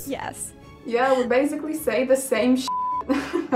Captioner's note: beep